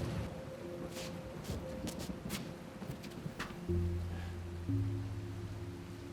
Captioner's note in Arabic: موسيقى متأملة; طقطقة المطر